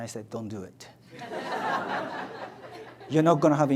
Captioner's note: audience laughs